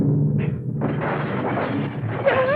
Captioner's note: clattering